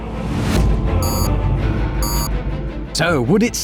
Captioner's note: beep, beep